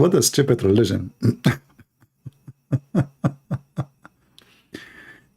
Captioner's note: Ketawa